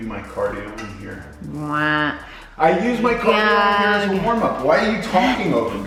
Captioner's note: wife mumbles